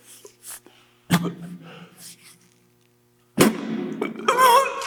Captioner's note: Jacob coughs; Jacob coughing